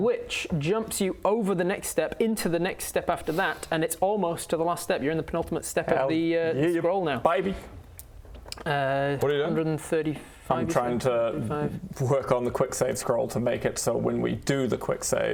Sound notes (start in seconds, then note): none